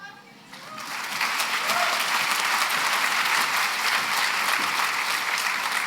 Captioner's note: applause